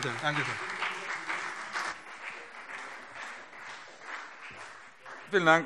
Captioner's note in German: Beifall BÜNDNIS 90/DIE GRÜNEN und CDU